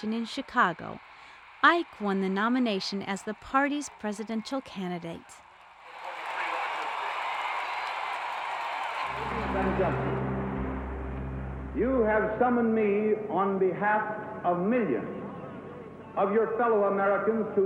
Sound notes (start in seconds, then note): 5.5 crowd cheering